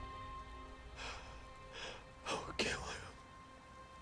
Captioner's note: quietly